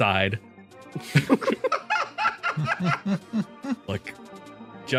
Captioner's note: laughs